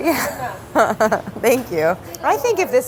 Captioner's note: laughing